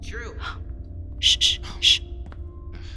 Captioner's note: approaching footsteps